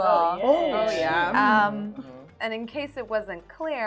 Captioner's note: group chattering